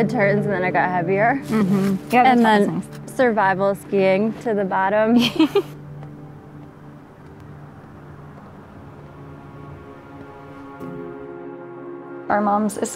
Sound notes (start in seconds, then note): 5.2 laughs; 9.1 melancholy music